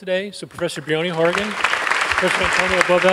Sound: clapping

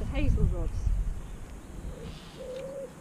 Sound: pigeon cooing

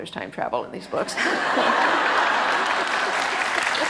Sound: audience laughter and applause

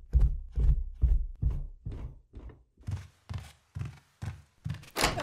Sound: door opens

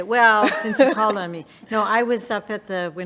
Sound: laughing

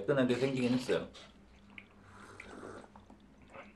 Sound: slirp

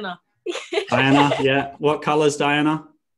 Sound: both laughing

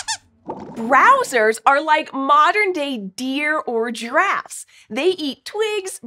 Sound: squeaks squeaks

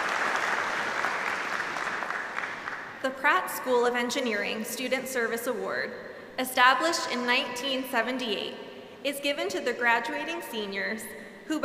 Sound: applause

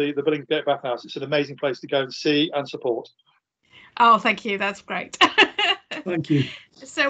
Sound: laughs

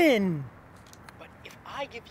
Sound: STACEY playing recording on phone

